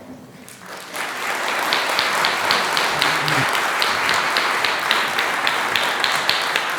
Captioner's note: applause